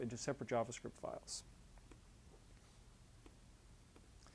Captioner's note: pause